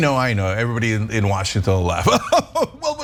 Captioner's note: laugh